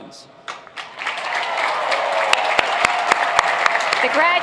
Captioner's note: applauding